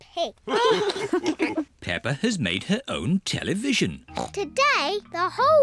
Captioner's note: all laugh